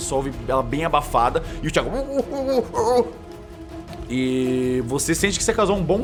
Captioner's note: very muffled voice